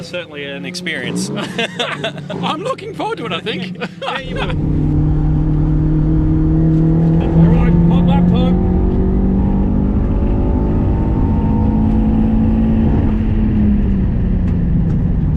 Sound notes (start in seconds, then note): 1.4 laughs; 5.3 engine roars; 9.9 engine roars